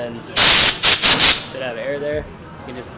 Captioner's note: loud air rushing